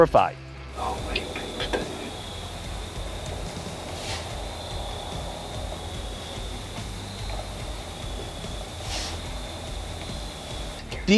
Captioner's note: whispering